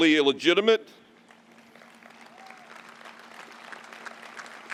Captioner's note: applause